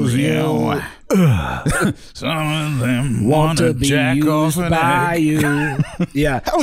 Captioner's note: moans